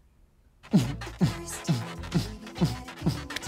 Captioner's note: grunting